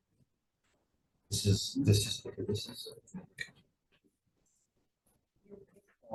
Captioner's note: faintly speaking